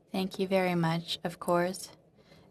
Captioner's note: speaking in french